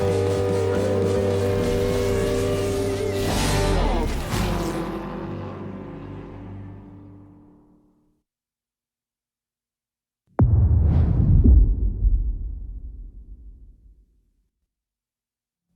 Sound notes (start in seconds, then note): 4.2 car engines humming; 12.5 dramatic sound